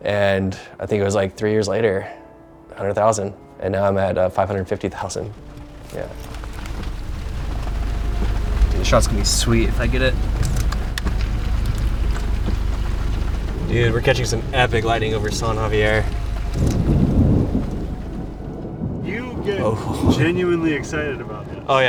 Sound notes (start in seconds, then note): 11.2 rain